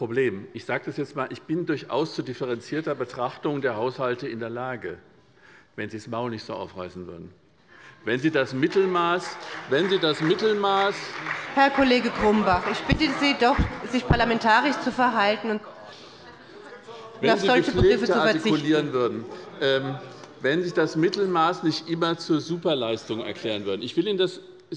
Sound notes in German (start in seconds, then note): 8.5 Beifall bei Abgeordneten der SPD